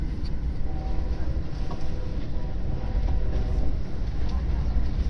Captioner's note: Acela Express Horn